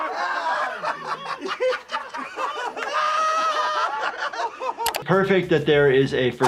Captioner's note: Jackass crew laughing